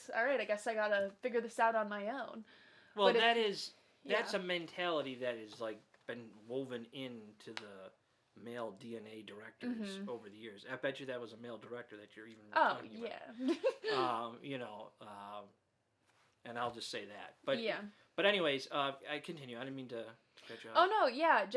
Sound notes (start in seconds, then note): 13.4 laughs